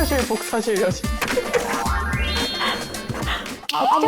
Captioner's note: cool copying sound effect